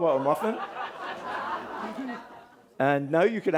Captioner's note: audience laughing